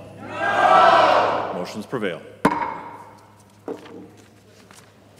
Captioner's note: chorus of ayes